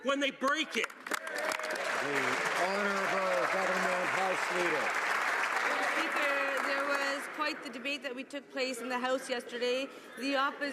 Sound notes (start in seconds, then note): 4.7 some Applause